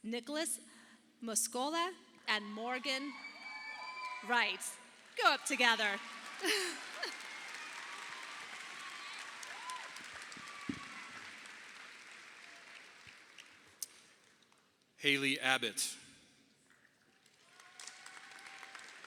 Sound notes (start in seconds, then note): 6.4 chuckles; 7.4 audience applauding; 17.2 audience applauding